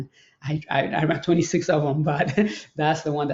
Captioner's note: laughs